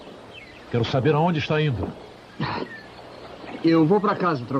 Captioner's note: sighs